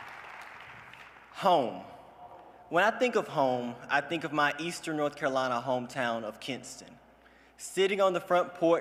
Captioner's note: cheers and applause